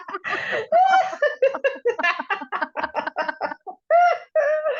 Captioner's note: laughter